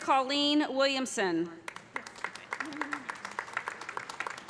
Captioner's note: applause